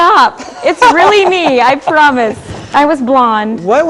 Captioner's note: laughing